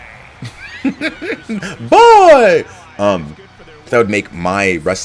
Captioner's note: laugh